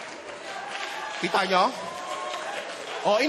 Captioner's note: laughter, applause; audience cheering